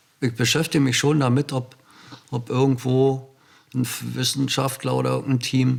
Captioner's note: German